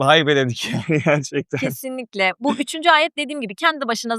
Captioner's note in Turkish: kahkaha